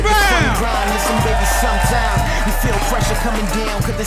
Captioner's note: audience applauding